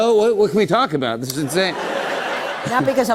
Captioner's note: laughter